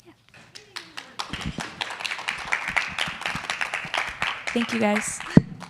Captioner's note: attendees applauding